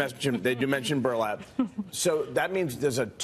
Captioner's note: laughter